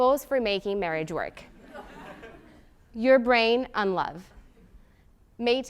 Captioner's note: laugh